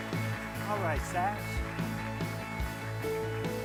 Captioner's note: crowd clapping; energetic music